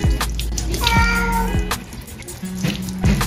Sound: Mapa Meowing

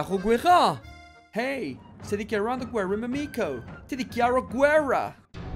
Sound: French accent; British accent

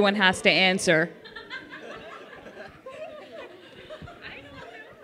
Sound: laughter

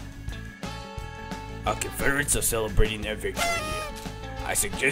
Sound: upbeat music; party horn sound

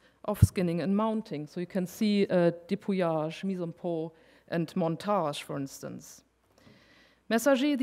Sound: speaking french

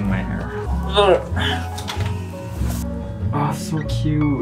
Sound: grunts

